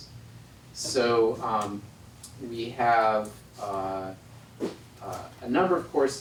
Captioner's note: none